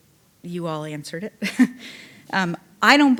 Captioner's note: chuckling